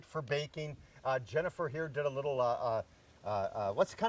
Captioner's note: stammers